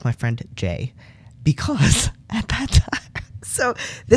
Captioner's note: laugh